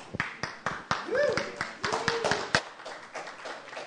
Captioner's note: applause